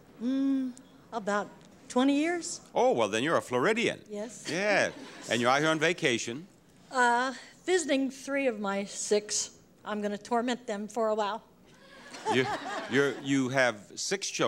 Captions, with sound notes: About 20 years. Oh, well then you're a Floridian! Yes. (laughs) Yeah. And you're out here on vacation. Visiting three of my six. I'm gonna torment them for awhile. (audience laughs) You have six children